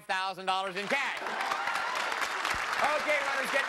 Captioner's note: cheers and applause